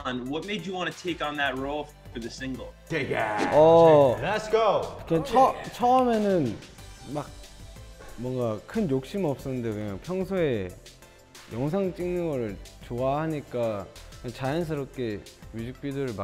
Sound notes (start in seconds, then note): 5.2 speaking foreign language; 9.1 bright pop music